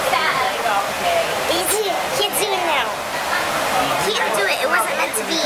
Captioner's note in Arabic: همهمات